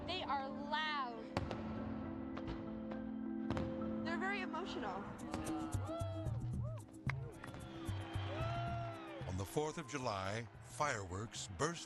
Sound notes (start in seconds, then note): 2.1 thudding; 5.4 cheering